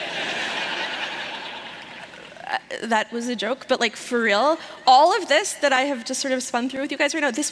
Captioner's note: laughter